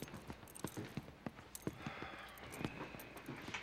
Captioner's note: sighs